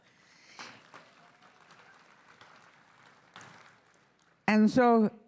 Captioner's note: crowd applauding